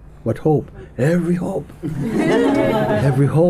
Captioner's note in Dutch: gelach